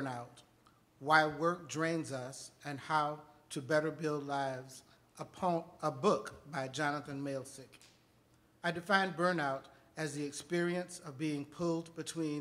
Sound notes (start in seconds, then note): none